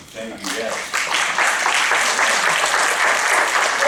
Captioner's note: applause